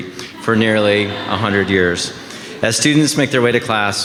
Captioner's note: audience laughing